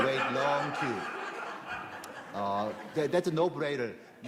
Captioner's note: laughter